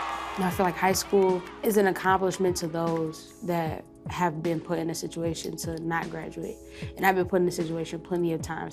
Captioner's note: cheering